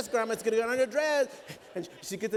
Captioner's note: laughter